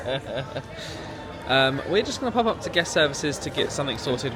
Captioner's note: laughing